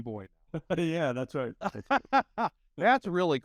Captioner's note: laughing